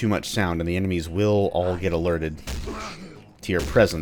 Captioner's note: even moar whacking